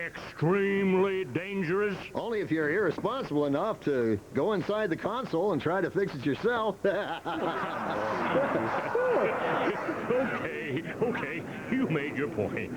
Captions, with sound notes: EXTREMELY DANGEROUS? ONLY IF YOU'RE IRRESPONSIBLE ENOUGH TO GO INSIDE THE CONSOLE AND TRY TO FIX IT YOURSELF.■ ( all laughing ) OKAY, OKAY, YOU MADE YOUR POINT.